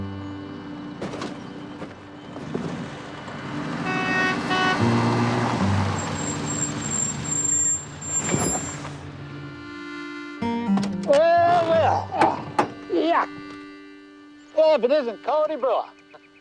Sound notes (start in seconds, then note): 3.6 honking; 11.4 grunting; 15.5 chuckling